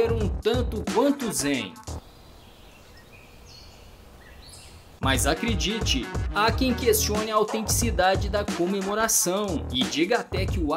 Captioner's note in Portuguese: Passáros cantando